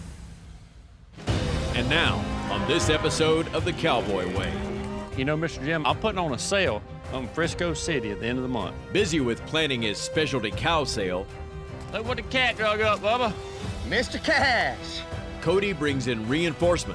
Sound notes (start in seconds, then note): none